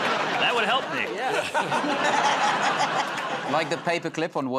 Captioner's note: laughter